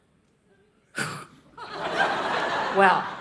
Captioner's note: audience laughing